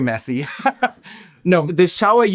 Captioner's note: laughing